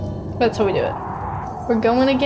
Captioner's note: wind whooshing